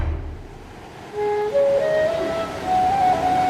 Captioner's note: waterfall whooshing; soft music